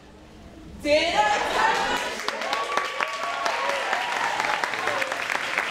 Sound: cheering and applauding

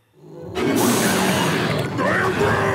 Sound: growls

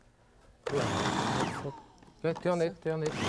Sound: food processor whirring

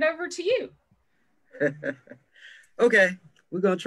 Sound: chuckles

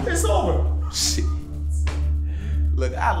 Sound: laughing

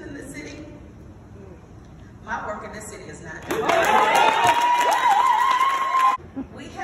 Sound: applause

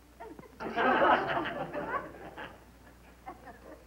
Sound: laughter

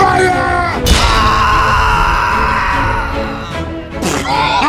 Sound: the screams

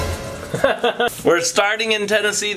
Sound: cymbal clash; chuckling

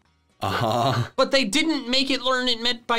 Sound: chuckling

